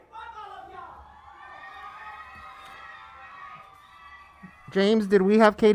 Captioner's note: protestors interjecting